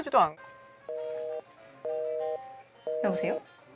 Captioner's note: beep!